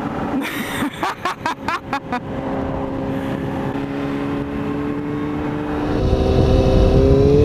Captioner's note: manic laughing